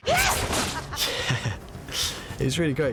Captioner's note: chuckles